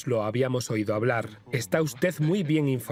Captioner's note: laughs